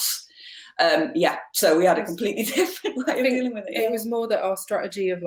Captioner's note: laughs